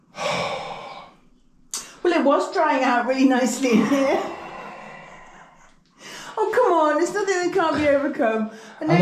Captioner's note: laughter